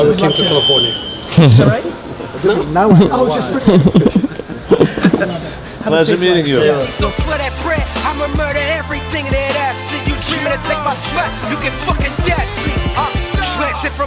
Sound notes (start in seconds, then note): 2.9 group laughter